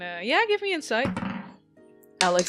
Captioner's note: dice thumps